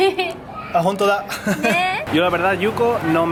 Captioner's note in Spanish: risas